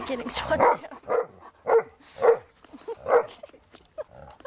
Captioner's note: dog barking